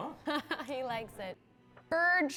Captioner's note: laughing